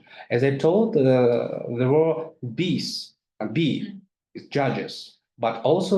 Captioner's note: speaks in foreign language